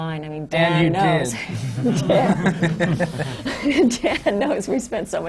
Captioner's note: laughter